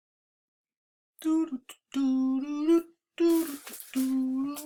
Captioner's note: instructor humming